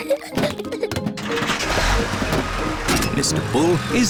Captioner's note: peppa and george giggle; engine turns on